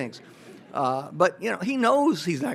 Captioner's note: audience laughs